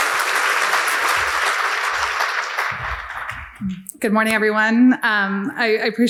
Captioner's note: crowd clapping